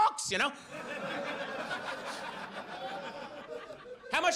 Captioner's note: audience laughs